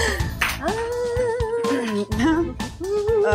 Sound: Jyoti humming

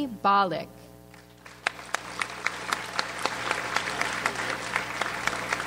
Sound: audience applauds

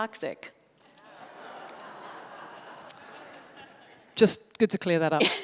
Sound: laughter

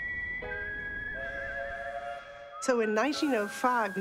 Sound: train whistle blows

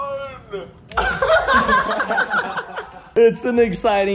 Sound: all chuckle

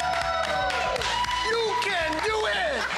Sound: applause

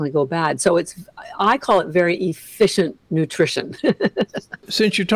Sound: laughs

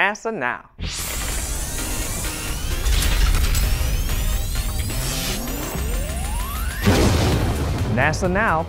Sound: sound Effects

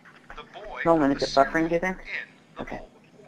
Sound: voiceover

